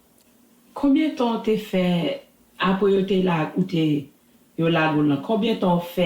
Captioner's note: speaking in Creole